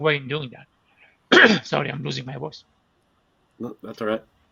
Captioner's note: cough